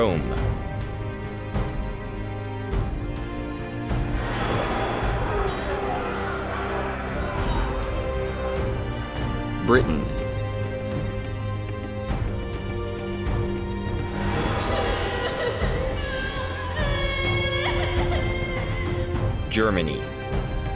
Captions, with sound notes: Rome. (shouting and clashing of swords) Britain. (woman sobs and child cries) Germany.